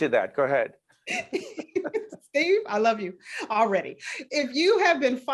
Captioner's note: laughing